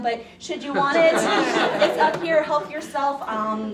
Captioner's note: laughing